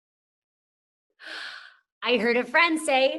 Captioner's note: sighs